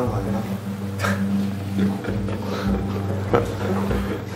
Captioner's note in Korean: 허망함에 헛웃음